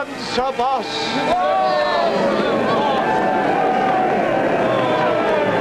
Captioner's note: cheers